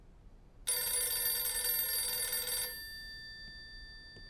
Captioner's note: phone rings